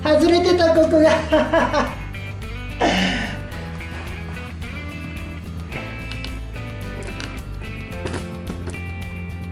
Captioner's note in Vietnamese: cười